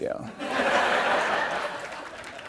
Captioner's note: laughter